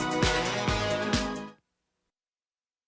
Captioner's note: crowd cheering